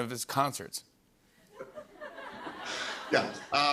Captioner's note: laughter